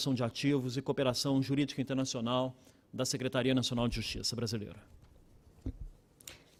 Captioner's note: speaking Portugese